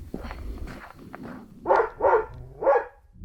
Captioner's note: dog barking